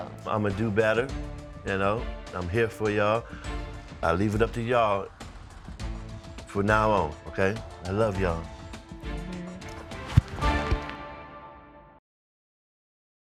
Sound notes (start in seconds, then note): none